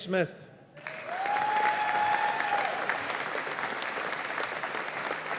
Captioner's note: audience applauding